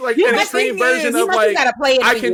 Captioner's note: laughing